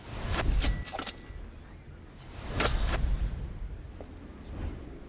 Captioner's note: coin jingling sound; whooshing sounds